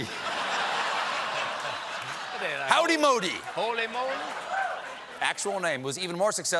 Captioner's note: laughter